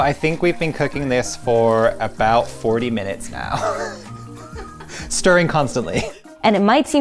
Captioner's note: chuckling